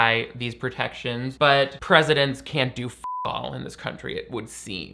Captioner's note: beep